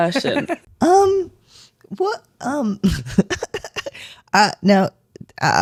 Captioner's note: laugh